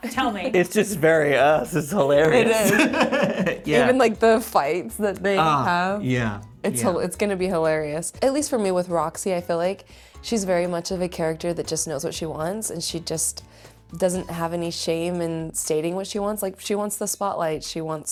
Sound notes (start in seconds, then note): 1.8 laughs